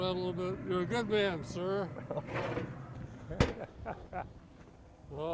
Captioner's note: chuckles